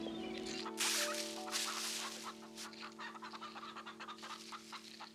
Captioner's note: chickens clucking